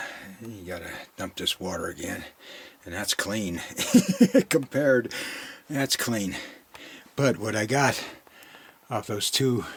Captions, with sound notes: I gotta to dump this water again and that's clean, (laughing) compared, that's clean, but what I got off those two